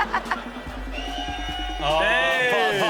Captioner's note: men cheering